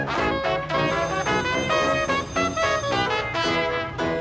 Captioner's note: bell ringing